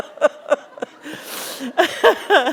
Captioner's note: laughter